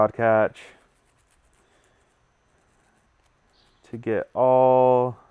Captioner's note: brushing